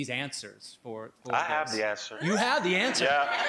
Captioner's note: laughing